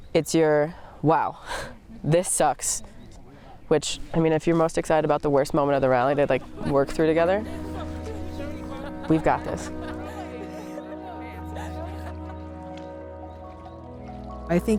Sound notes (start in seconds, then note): 7.9 joyful excited chatter; 10.2 group laughing and chattering; 13.7 reflective music